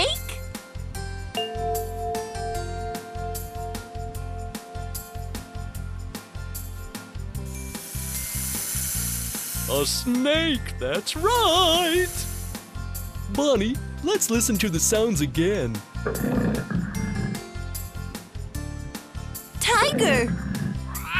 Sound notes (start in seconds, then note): 1.4 bell chimes; 7.4 sound of a snake; 16.0 tiger makes sound